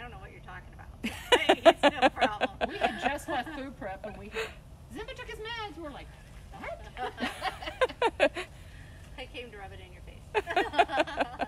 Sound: laughter

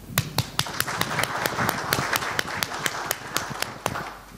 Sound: applause

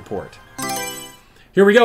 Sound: Mario Selection Sound

